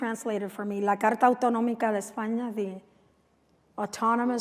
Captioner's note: non-english speech